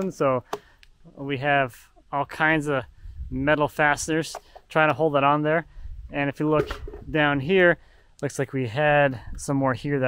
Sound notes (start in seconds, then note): none